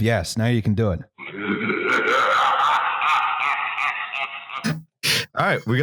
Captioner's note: monstrous laughter